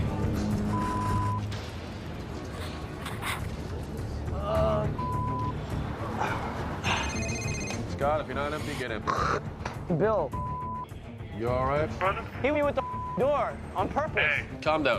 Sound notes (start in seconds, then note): 7.0 telephone rings; 9.0 spits